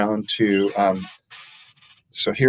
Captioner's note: chair squeaking